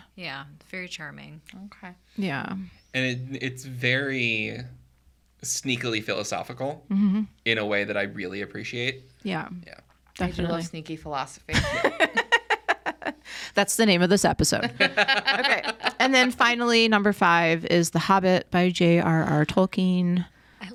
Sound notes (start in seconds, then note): 11.5 laughing; 14.6 podcasters laughing